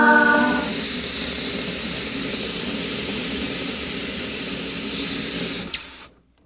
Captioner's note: lab faucet running